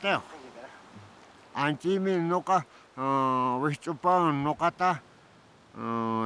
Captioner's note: speaking Quechua